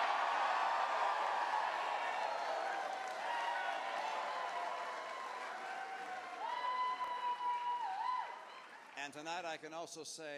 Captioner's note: cheers